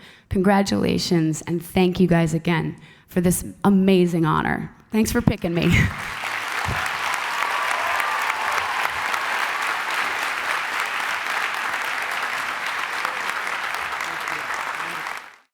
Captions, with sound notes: Congratulations and thank you, guys, again, for this amazing honor. Thanks for picking me. (applause and cheers)